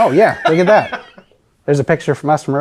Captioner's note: laughs